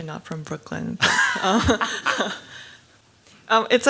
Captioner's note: laugh